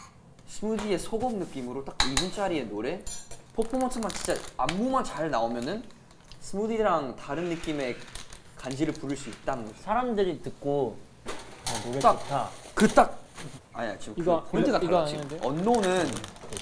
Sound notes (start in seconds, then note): none